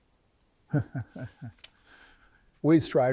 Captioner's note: Man in White laughing